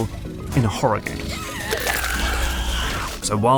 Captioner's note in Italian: urlo dello xenomorfo